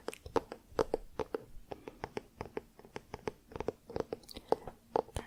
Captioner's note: tapping on spine